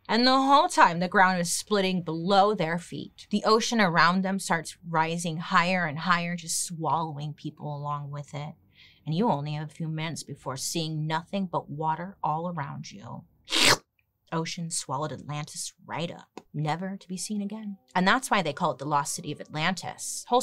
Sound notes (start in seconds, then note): 13.5 slurps